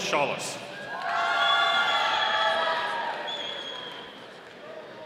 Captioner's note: audience cheering